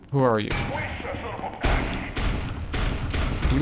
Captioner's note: gunshots